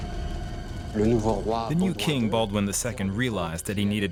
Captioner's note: speaking French